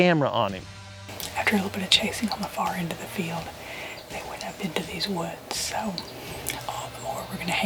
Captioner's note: whispering